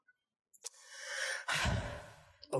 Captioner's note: sigh